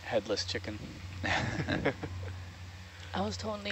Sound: people laughing

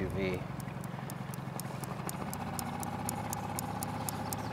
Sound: boat engine purring

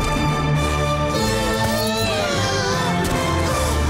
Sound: grunting

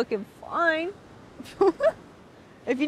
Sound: laughing

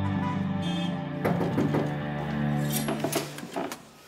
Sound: tense music; knocking

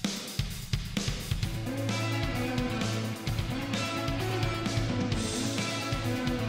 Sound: none

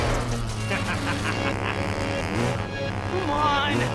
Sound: laughing

